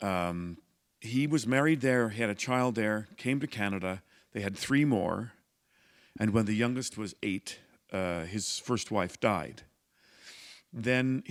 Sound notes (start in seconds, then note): none